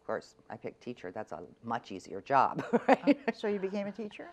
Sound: laughs

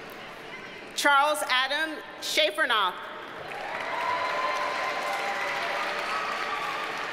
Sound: audience cheers and applauds

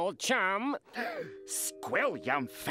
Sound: gasps

